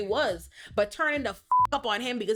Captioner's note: beep